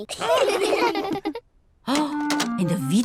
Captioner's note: all laugh